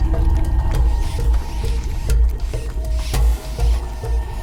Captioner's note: rats squeaking